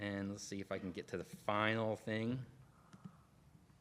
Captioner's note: none